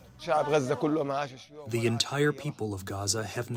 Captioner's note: through translator